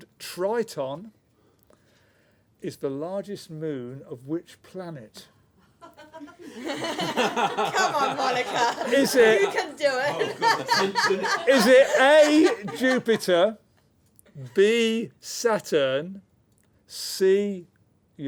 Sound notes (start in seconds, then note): 5.8 laughter; 10.4 laughter